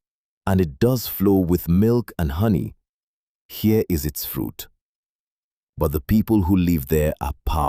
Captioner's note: thoughtful